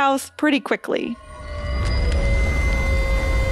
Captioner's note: CONWAY breathes and relaxes, as a peal of feedback and loose rock engulfs him